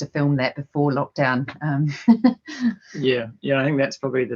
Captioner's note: laughing